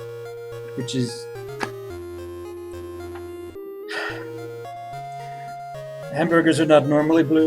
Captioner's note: sighs